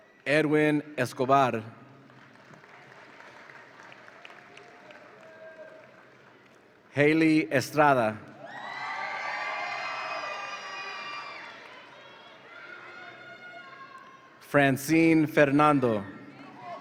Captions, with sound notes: Edwin Escobar. (audience applauds) Haley Estrada. (audience applauds and cheers) Francine Fernando.